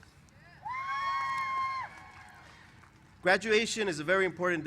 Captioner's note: cheers